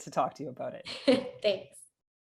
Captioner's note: laughs